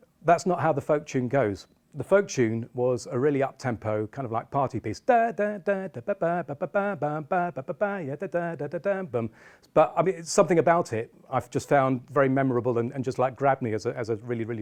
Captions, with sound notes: That's not how the folk tune goes the folk tune was a really up tempo kind of like party piece [Vocalising the tune] But I mean it's something about it I just found very memorable and just like grab me as a really